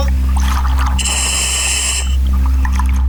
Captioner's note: oxygen pipe whirling